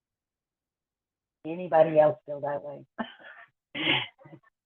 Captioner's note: laughs